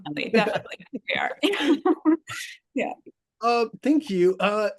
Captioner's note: laughs